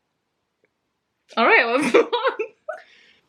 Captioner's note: laughs